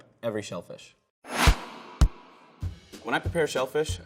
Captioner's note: swooshing